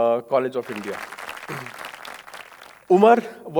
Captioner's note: audience applauding